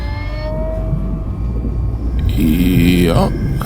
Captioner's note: sub whirring